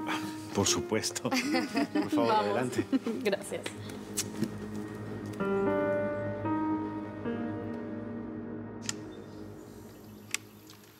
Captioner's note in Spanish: Risas